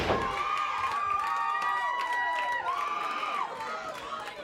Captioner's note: audience cheers